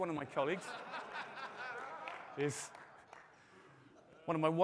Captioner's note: audience laughing